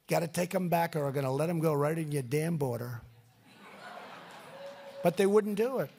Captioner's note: laughter